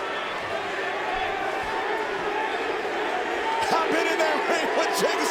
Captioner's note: crowd chants "DDT"